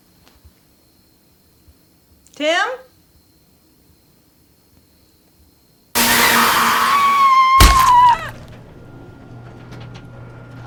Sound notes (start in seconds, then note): 5.9 Avery screaming; 8.5 dramatic music